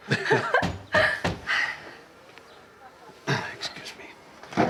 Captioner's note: knocking at door